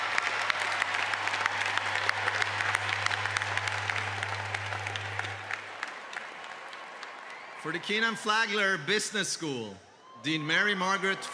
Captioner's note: cheers and applause